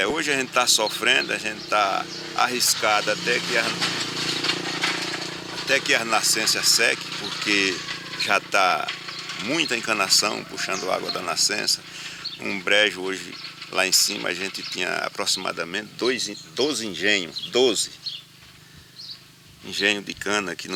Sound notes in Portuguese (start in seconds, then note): 5.0 Motor de veículo passando na rua; 9.1 Canto de pássaros; 11.5 Canto de pássaros